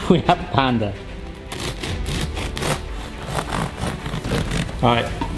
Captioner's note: dramatic orchestral music; bread crunching